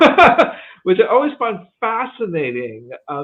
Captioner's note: laughs